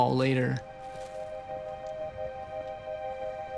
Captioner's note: none